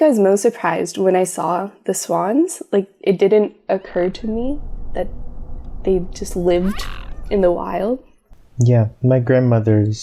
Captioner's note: swan sounds